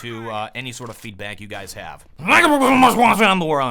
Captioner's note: deep voice